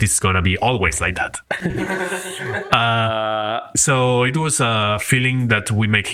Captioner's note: laughs